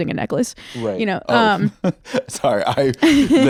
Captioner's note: laughs